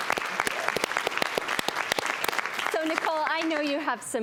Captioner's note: audience clapping